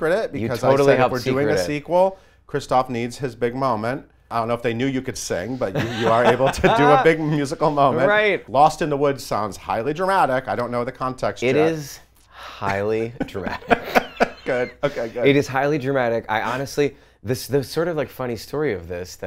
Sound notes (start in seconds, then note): 13.2 laughs